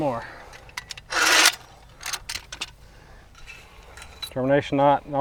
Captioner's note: metal clunking